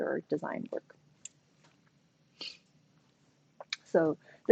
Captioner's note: silence